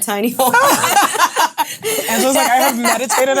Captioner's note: ladies laughing